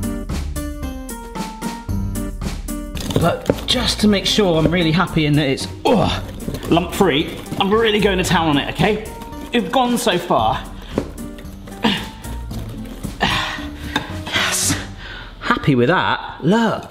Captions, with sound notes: (bright music continues) But just to make sure I'm really happy in that it's (grunts) lump free. I'm really going to town on it, okay? You've gone so far... (grunting) Yes. Happy with that.